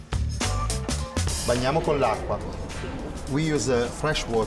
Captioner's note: upbeat funky music; speaking Italian